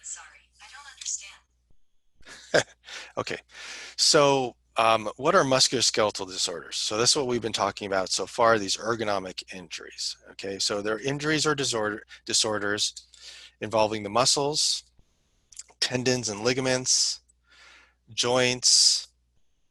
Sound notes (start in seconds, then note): 2.2 laughter